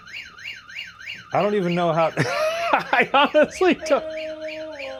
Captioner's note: laughing